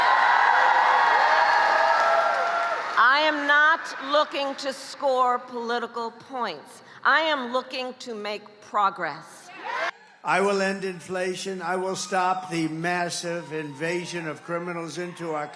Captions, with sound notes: [audience cheers and applauds] I am not looking to score political points. I am looking to make progress. - [Crowd] Yes! - I will end inflation. I will stop the massive invasion